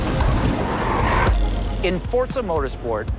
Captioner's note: brakes screeching